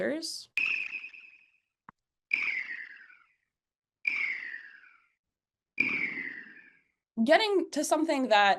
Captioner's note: high-pitched chirps